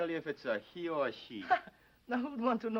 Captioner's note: man laughing